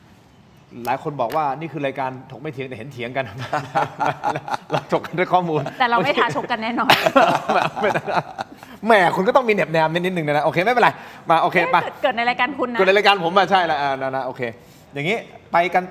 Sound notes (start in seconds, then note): 3.2 laughter